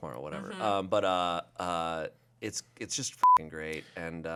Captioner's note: beep